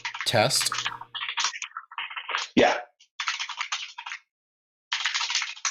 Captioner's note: keyboard keys clanking